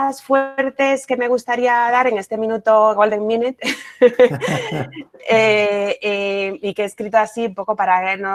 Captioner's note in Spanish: risas